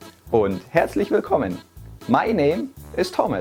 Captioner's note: speaks in foreign language